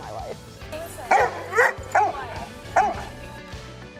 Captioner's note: barking; upbeat music